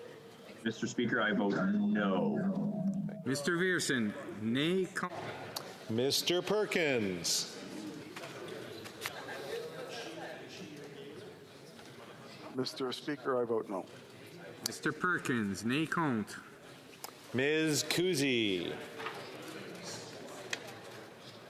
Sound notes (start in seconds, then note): 10.4 speaking FRENCH